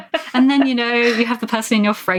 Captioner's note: laughing